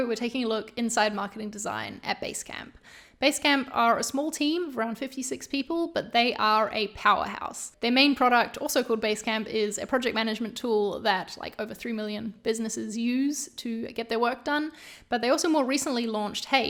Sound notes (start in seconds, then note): none